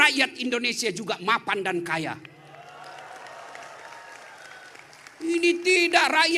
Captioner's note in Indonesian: tepuk tangan